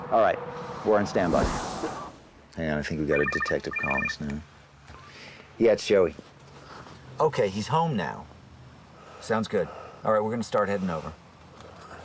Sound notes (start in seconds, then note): 4.6 phone ringing